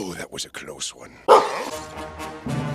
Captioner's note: Lucario Bark